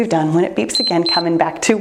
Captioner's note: timer beeps